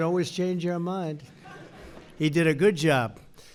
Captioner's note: laughter